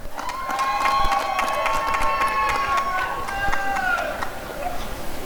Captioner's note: applause and cheering